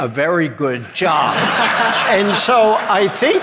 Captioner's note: audience laughing